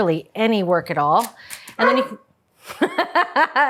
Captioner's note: dog barks; Julia laughing